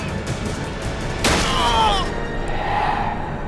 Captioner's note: groans